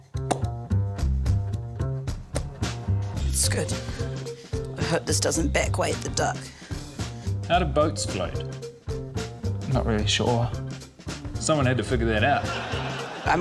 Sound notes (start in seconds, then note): 0.2 pops lips; 2.3 pops lips